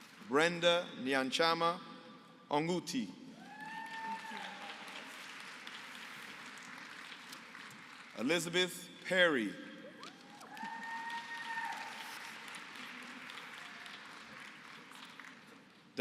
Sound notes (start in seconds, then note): 3.4 applause